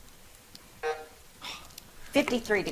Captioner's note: buzzer drones